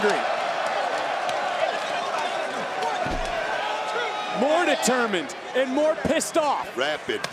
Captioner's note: applause